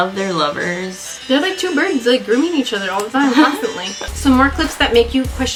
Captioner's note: laughs